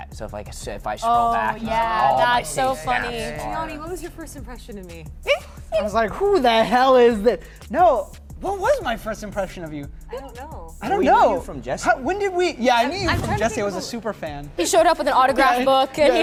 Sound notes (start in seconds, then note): none